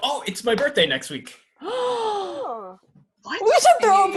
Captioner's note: ELEANOR gasps